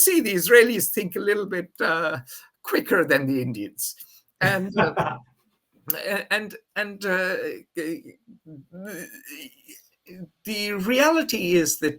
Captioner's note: laughs